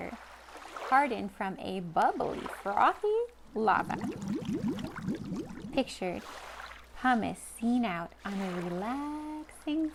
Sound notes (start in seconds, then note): 3.7 bubble sounds